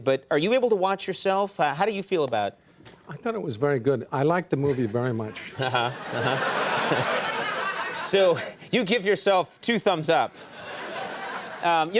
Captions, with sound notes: but are you able to watch yourself? How do you feel about it? I thought it was very good. I liked the movie very much. (audience laughing) So you give yourself two thumbs up.